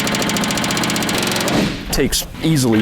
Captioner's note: metal buzzing